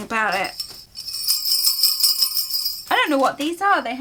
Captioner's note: bells jingle